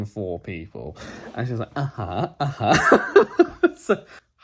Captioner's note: laughs